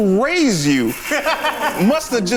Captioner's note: laughs